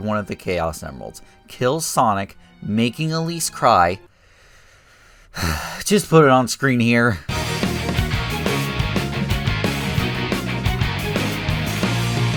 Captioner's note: sigh